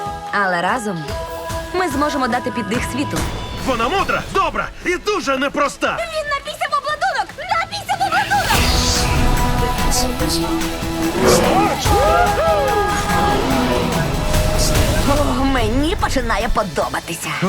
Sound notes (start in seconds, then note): 11.0 whooping